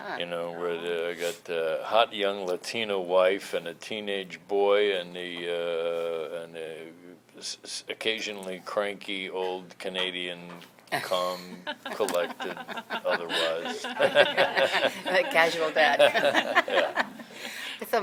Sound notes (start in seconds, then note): 11.6 laughter